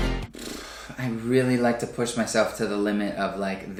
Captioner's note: blows raspberry